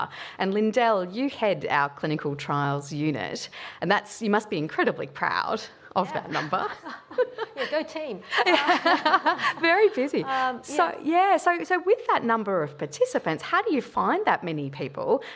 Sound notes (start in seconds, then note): 6.2 laugh